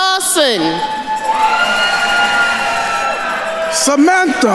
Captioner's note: attendees cheering and applauding